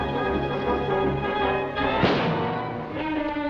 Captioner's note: gunshot